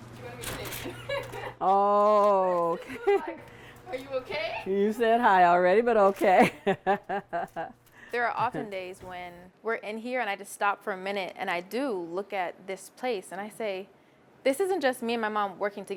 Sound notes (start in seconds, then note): 0.8 laughs; 6.3 laughs